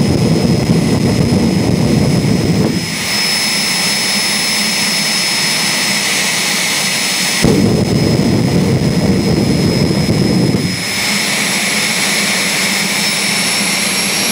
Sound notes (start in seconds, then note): 6.2 jet car afterburner sound